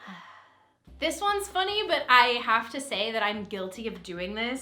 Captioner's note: sighs